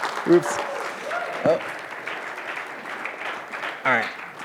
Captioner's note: applause